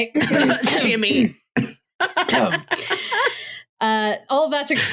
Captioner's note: cough